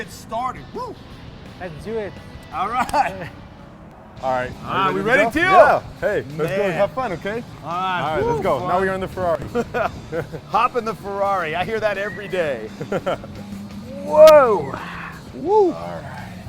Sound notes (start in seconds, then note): 2.4 laughs; 4.0 smack; 10.2 laughs; 15.0 engine hums